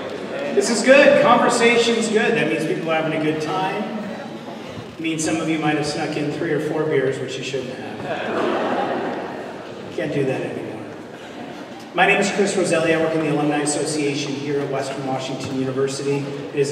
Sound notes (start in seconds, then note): 8.0 laughter